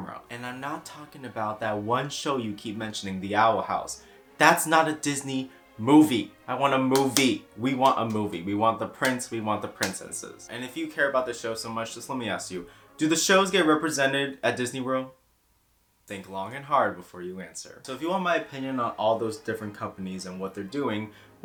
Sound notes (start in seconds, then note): 15.0 awkward Dora the Explorer silence